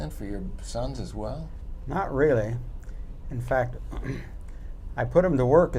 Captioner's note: clears throat